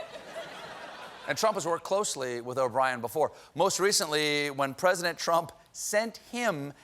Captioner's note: laughter